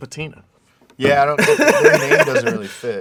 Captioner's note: laughs